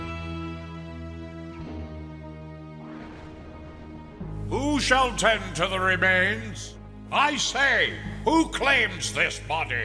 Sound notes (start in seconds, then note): 1.1 thunder